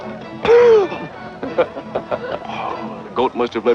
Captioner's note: gentle rhythmic music; coughs; chuckling